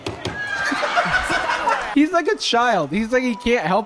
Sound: laughs

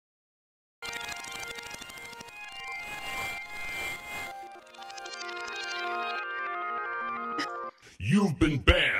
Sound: reversing sound effect; modulated voice

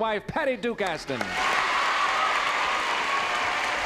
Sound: applause and cheering

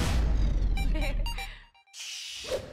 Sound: laughs

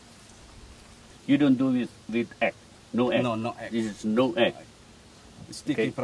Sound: chef speaking

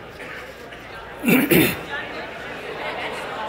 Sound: crowd

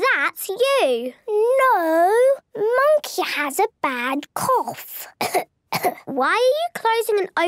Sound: pretending to cough

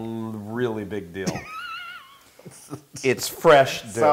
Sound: laugh

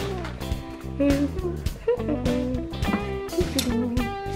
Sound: humming

